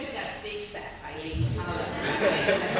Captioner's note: laughter